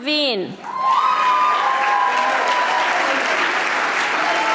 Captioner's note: audience applauding